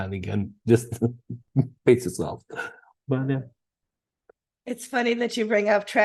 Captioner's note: laughing